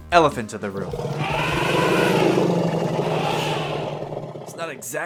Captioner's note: elephant Sound